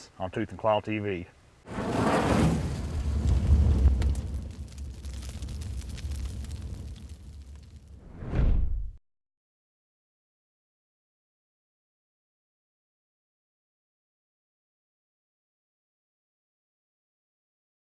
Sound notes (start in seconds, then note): 1.2 fire crackling